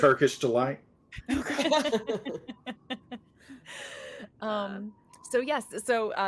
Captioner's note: cast members laughing